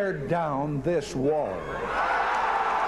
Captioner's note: cheers and applause